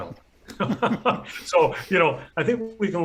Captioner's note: both laughing